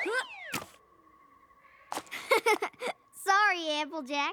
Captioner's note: laughs